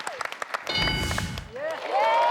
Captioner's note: ding; audience cheers